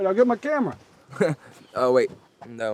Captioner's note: David laughs